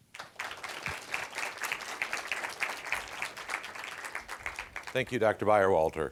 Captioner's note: applause